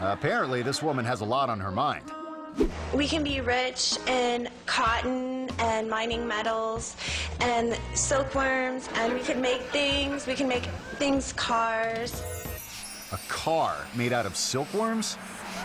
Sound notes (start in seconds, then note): 2.4 ditsy music; 2.5 air whoosh; 9.0 audience laughing; 12.0 dreamy music